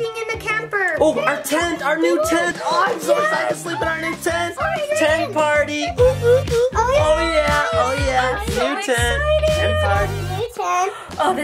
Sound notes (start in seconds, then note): 6.5 upbeat music; 6.7 everyone cheering